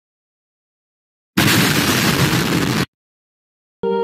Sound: boom!

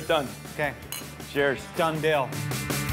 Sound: clink

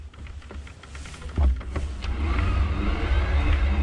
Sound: whirring

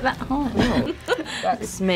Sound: laughter

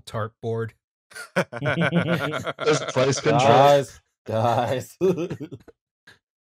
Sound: laughter

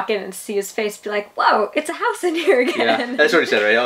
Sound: laughs

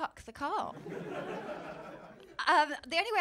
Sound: laughter

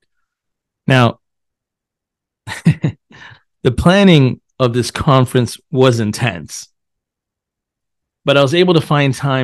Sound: chuckles

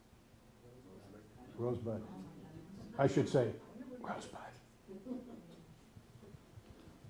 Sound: whispered

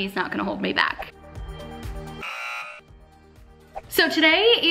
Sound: upbeat music; buzzer honks

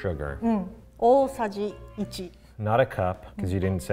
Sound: speaks in foreign language

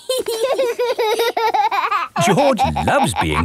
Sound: laughing

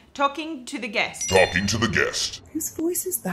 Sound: deep Altered Voice

